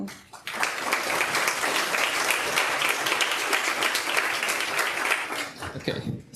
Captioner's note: audience applauds